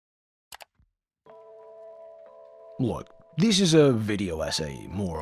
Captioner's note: click